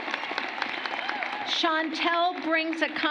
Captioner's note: applause